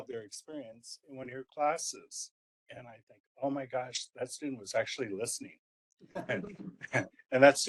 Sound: laugh

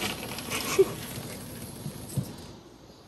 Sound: laughing

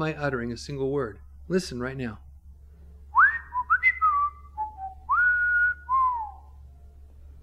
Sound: whistles

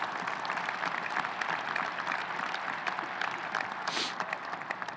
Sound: audience cheering; audience applauding

